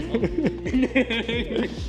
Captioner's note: laughing